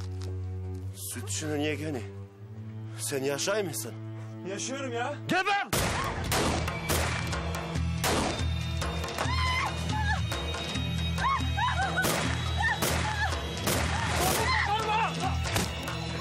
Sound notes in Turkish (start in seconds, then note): 5.7 Kurşun sesi; 5.7 Kurşun sesleri; 9.2 Bağırıyor; 11.8 Kurşun sesleri